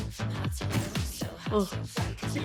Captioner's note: sighs